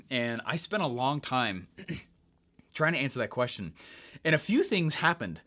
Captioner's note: clears throat